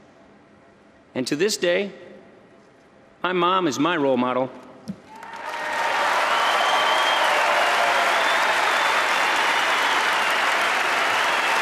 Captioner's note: applause